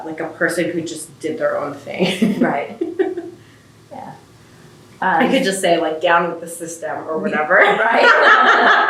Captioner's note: laughter